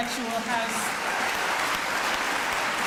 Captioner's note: applause